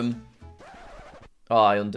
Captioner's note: record scratches